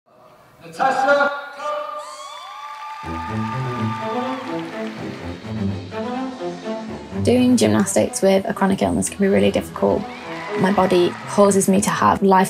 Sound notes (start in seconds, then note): 2.2 spectators clapping; 3.0 upbeat music